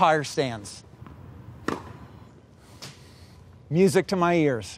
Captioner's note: tennis ball bounces